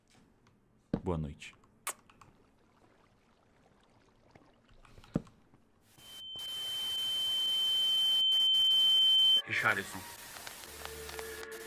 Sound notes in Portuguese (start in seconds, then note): 1.8 beijo; 5.7 estática e zumbido